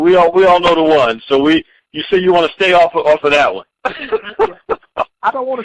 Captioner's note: laughing